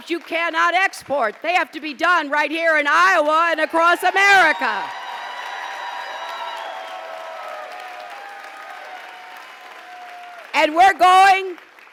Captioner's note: applause